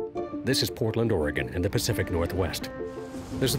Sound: voiceover

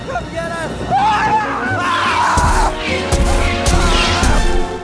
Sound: screaming

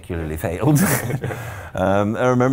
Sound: laughing

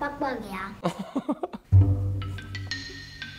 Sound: laughing

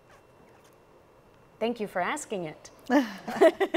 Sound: chuckles; laughs

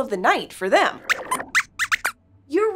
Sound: squeaks squeaks

